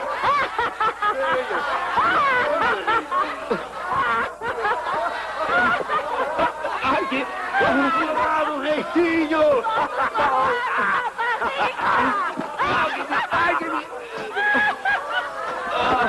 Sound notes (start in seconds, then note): 11.0 laughing